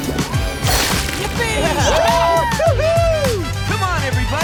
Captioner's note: cheering